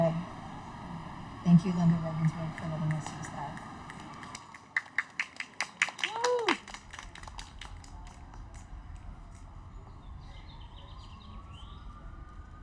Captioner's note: applause